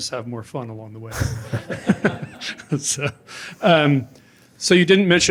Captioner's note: laughter